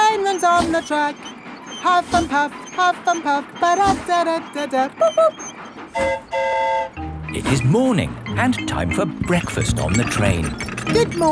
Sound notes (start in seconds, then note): 5.9 mimics train whistle; 5.9 train whistle toots